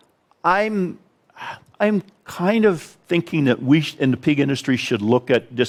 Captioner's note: sighs